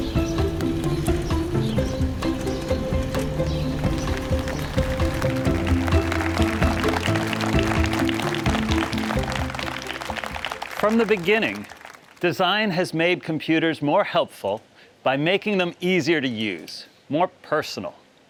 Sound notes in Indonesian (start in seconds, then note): 5.6 Tepuk tangan